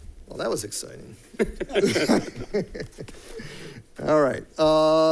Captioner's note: people laughing